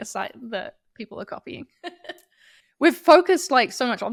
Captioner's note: chuckles